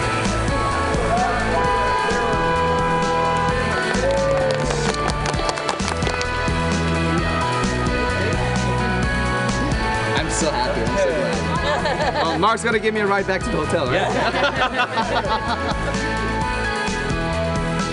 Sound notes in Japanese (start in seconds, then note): 3.3 拍手